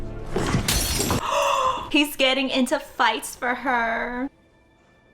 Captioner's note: gasps